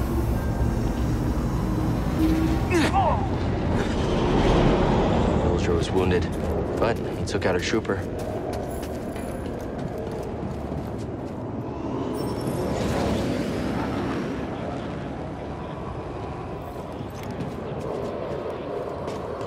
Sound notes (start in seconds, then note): 2.6 صراخ "أوستار" وصراخ جندي